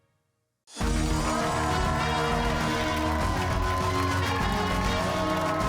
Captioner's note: cheers and applause